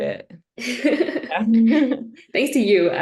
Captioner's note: laughter